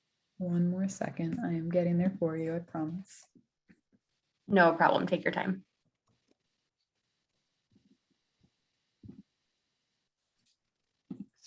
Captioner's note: silence